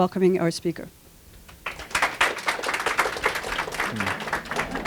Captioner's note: applause